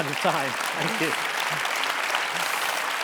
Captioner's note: applause